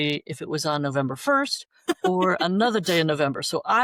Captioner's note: laughter